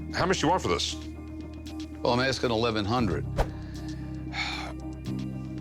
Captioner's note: sighs